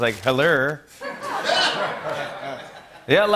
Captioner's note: laughter